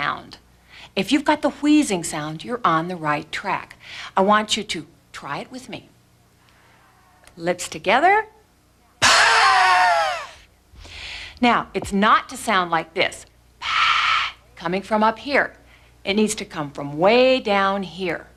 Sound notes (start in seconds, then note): 8.3 breathing; 13.3 breathing